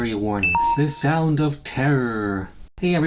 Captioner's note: beep beep